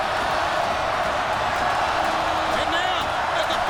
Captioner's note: audience roars